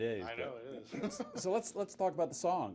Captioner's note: chuckles